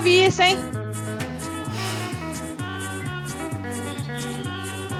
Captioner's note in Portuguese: suspiro